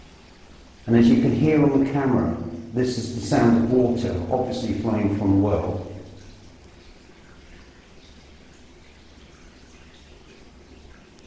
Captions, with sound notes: And as you can hear on the camera, this is the sound of water, obviously flowing from the well. (water dripping)